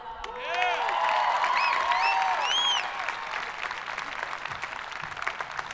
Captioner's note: audience applauding